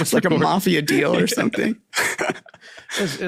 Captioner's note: laughing